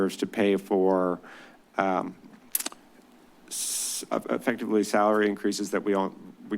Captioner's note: clicks tongue